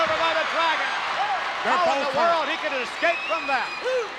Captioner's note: applause